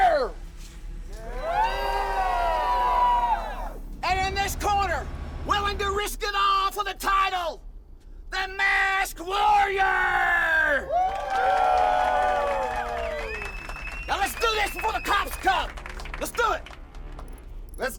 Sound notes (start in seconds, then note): 1.2 crowd cheers; 10.4 crowd cheers